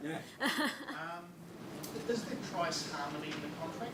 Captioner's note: laughs